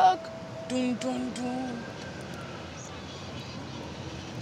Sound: hums

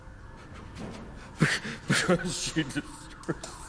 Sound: breaking down crying

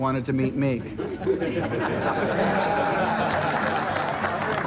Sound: laughing

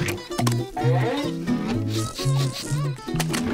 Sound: sniffing

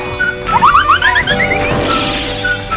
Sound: whirling sound

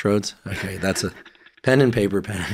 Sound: chuckling

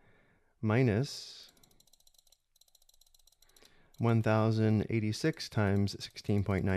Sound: mouse clicking

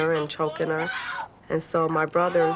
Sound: yelling

